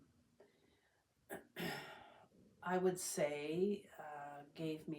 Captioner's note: clears throat